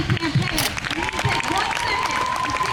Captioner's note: crowd cheers